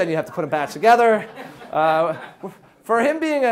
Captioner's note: audience laughs